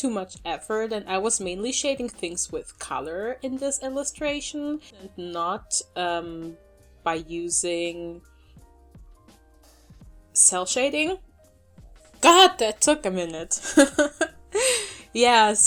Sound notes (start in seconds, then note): 13.5 laughter